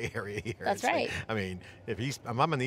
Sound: laughing

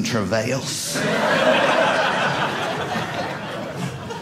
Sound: audience laughing

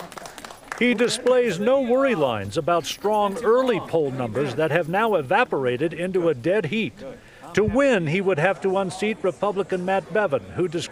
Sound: applause

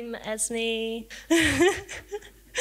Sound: laughs

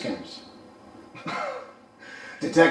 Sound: laughing

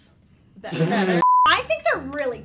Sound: beep

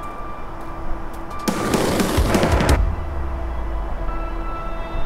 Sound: skateboard rolling

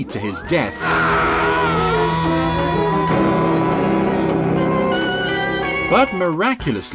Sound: mysterious music; Captain Scarlet screaming

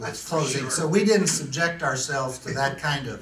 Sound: laughs

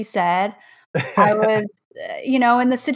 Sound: chuckles

